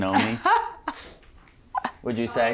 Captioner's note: laughing